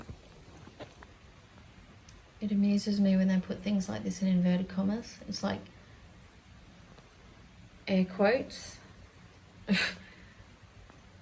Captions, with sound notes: It amuses me when they put things like this in inverted commas. It's like air quotes. [scoffs]